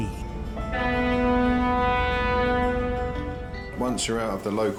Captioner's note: boat horn blaring